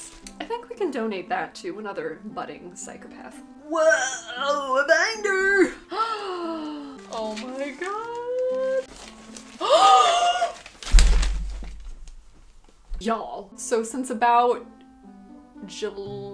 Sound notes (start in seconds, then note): 5.8 gasps; 9.6 extreme gasp